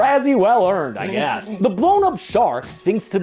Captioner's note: laughs